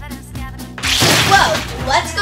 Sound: liquid squishes; metal bangs

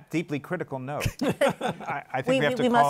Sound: laughter

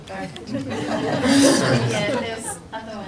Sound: people laugh

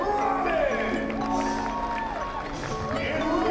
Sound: crowd cheering

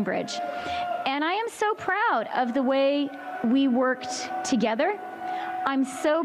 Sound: chanting

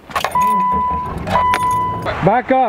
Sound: car beeps

